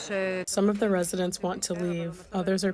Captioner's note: through translator